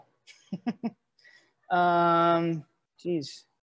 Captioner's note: chuckles